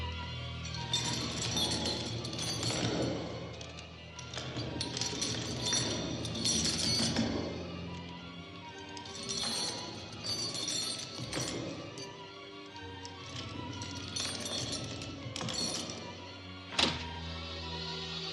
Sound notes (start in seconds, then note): 0.9 CHAINS RATTLlNG